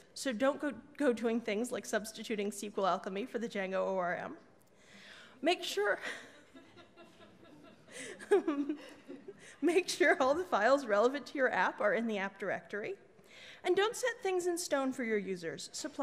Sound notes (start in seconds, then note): 6.5 audience laughs; 9.0 laughs